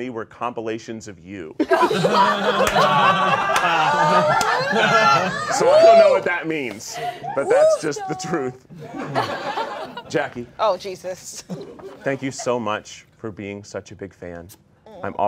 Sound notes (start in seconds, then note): 1.6 all laughing